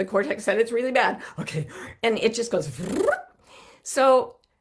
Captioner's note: blows raspberry